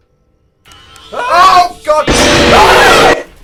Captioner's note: shouts